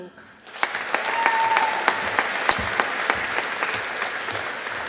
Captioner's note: audience applauding